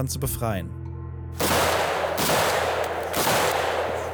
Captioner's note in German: Mehrfache Schüsse